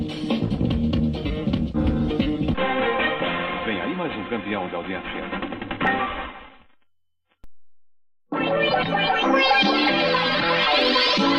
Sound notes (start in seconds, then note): 3.4 male announcer speaking Portuguese; 8.1 retro music playing